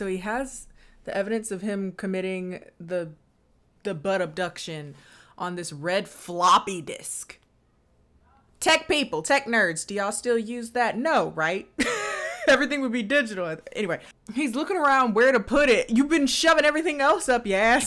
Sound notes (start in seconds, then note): 11.8 laughs